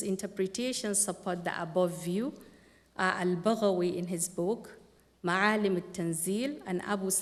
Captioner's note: non-english speech